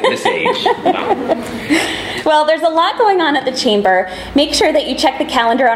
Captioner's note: laughing